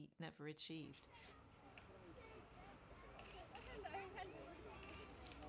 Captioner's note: crowd chattering